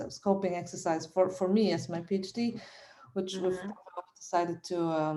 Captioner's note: mic distortion